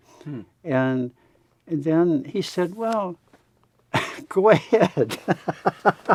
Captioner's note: laughs